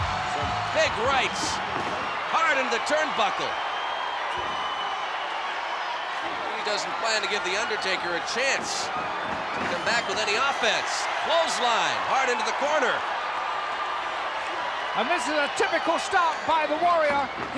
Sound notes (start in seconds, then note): 3.8 applause; 13.3 applause